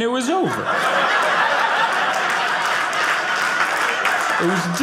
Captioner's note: audience laughing